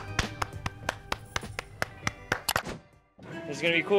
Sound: applauds

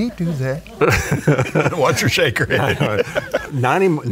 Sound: laughing

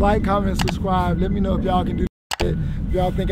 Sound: beep

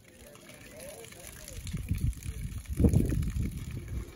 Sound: water running

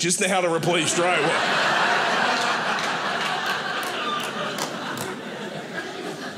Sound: audience laughing

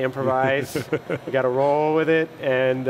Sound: laughter

